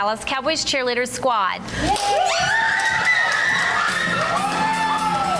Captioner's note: women cheering; upbeat guitar music